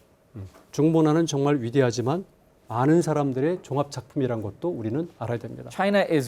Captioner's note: speaking in Korean